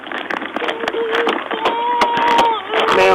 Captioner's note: crying